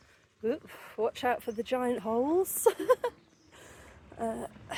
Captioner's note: laughing